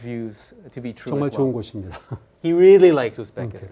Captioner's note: speaking in Korean